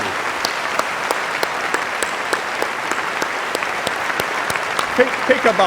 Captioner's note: applause